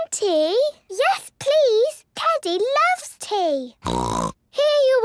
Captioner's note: snort